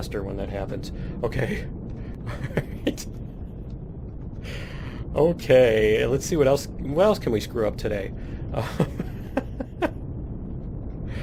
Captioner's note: laughs